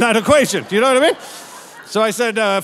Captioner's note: audience laughing